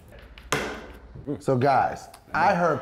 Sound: pool cue strikes ball

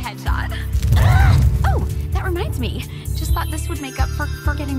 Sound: both grumble

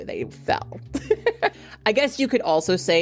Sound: host laughs

